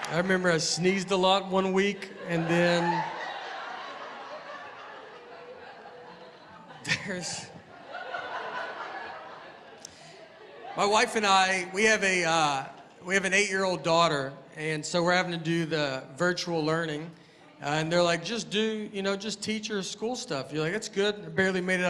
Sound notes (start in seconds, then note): 1.9 laughter